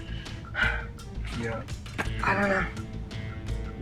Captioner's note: huffs